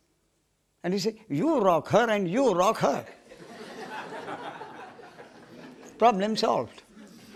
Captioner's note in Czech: smích